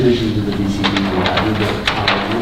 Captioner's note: rustling drowns out speaker